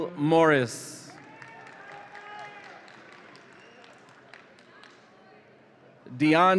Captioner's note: audience applauds and cheers